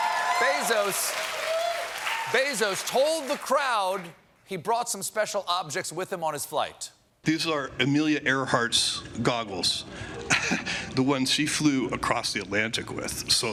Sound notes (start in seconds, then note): 0.0 cheers and applause